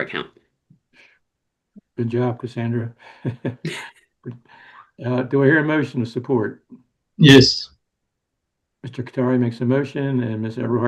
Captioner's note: laughs